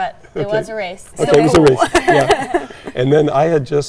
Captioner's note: laughs